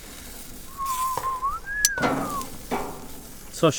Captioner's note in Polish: gwizdanie